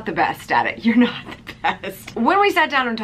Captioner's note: laughs